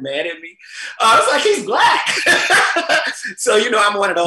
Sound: laughs

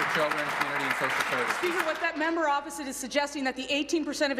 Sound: applause

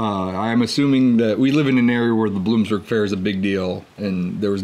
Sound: none

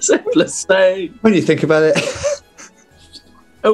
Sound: laughing

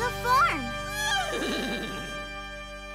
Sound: neighing

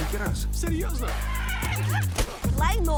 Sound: yells, grunts

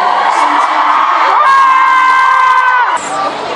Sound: cheers

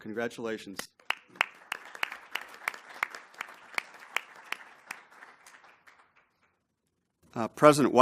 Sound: applause

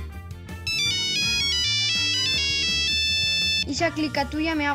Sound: A cell phone rings

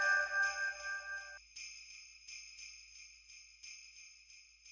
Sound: sleigh bells ringing

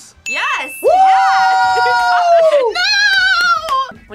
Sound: both shout

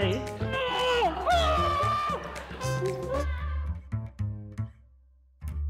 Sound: granny screams; dramatic music

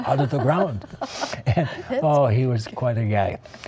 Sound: laughter

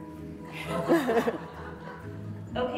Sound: laughter

